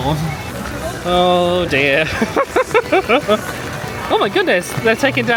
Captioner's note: laughs